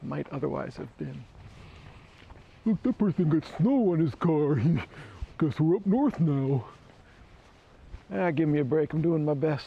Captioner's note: silly voice